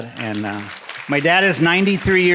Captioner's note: audience applauding